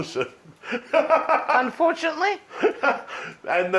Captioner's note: laughs